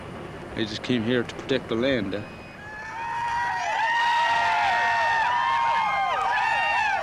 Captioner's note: cheers